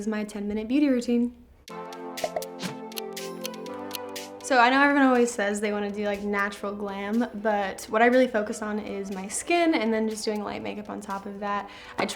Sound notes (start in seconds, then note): 2.4 calm music; 3.7 clock ticks